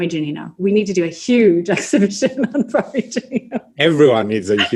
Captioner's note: laughs